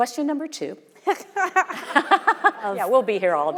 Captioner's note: both laughing; audience laughing